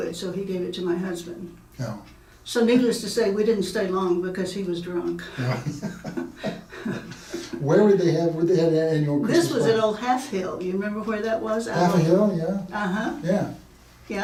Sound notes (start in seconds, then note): 5.3 laughing